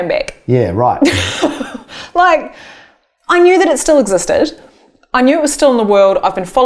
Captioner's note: laughing